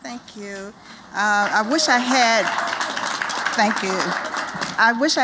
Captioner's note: applause